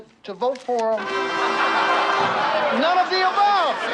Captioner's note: triumphant music; people laughing